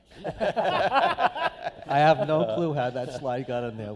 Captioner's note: laughter